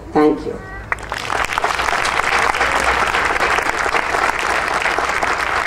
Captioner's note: audience applauding